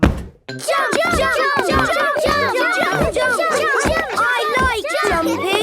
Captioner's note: all shouting "Jump! Jump!"